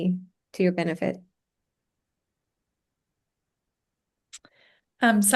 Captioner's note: silence